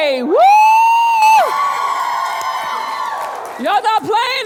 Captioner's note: audience cheering and clapping